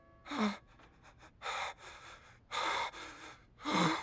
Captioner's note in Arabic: شهقات مخيفة